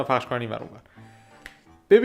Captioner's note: deep breath intensifies + also 290008